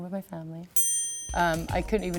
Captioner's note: ding